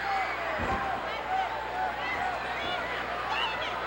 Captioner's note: boos